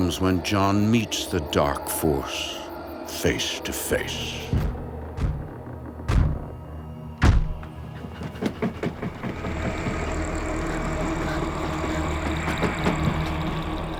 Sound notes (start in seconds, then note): 3.2 eerie music; 4.4 banging sound; 7.6 heavy breathing